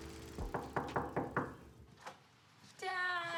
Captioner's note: knocking at door